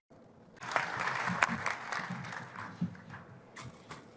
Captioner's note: applause